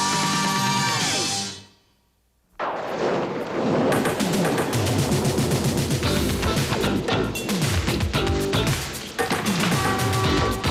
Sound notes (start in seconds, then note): 4.0 thunderclap